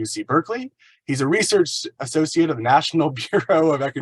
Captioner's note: laughs